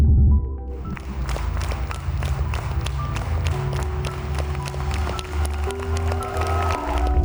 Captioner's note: applause